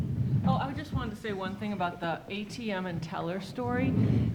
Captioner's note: none